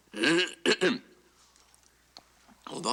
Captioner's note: clears throat